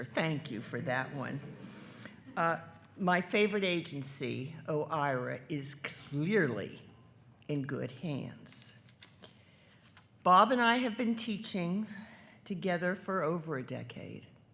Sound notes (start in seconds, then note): none